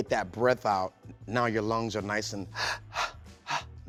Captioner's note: inhales and exhales